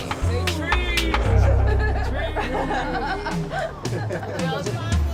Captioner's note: laughter